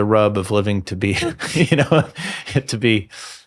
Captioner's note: laughs